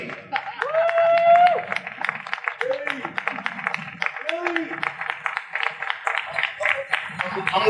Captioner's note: audience applause